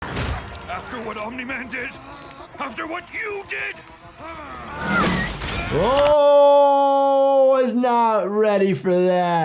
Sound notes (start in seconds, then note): 4.2 Invincible groaning; 4.8 air whistling